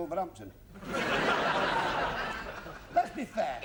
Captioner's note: laughter